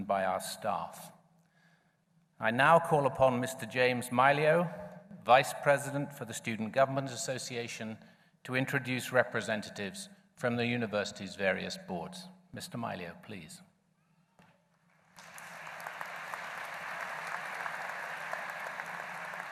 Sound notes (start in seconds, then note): 15.0 applause